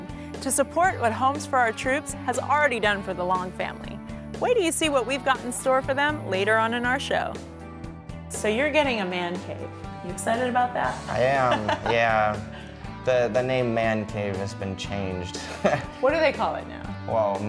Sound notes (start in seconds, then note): 11.0 laughter; 15.4 laughter